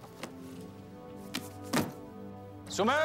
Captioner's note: book thuds